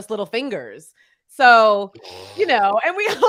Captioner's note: laughs